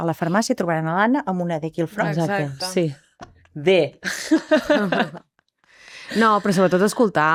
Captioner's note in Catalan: rialles